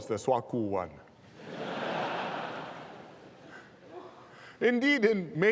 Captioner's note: laughter